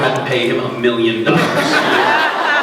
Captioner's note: laughs